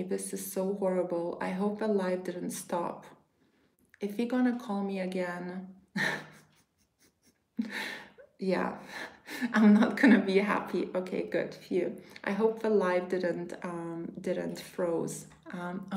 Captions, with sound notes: This is so horrible. I hope the live didn't stop. If you're gonna call me again, (chuckles) yeah, I'm not gonna be happy. Okay, good, phew. I hope the live didn't didn't froze.